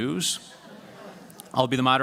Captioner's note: laughter